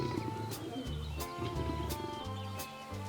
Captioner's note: growling